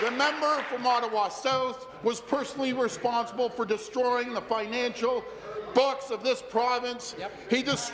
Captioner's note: applause